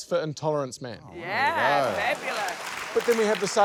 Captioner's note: applause